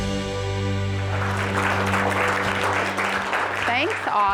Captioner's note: audience applauds